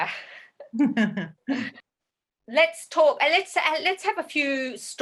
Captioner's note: chuckles